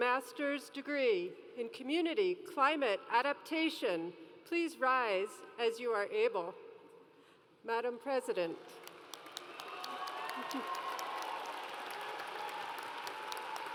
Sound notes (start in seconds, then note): 9.2 audience cheers